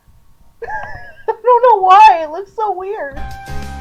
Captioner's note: laughter